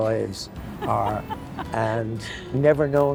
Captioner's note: laughing